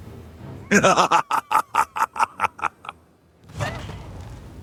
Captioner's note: laughter